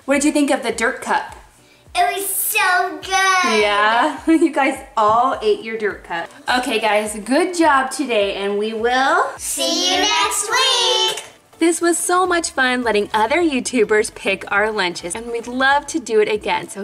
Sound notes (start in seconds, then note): 4.2 chuckles